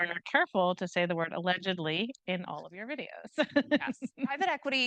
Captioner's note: chuckles